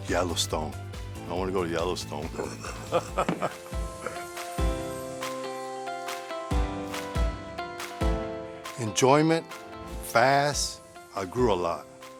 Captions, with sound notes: Yellowstone, I want to go to Yellowstone. (laughs) (upbeat music) Enjoyment, fast, I grew a lot.